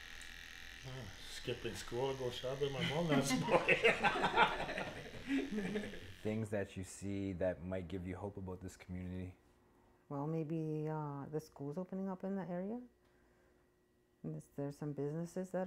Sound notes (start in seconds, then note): 0.1 laughs; 5.5 laughter